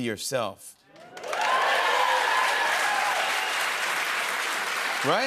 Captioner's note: cheers and applause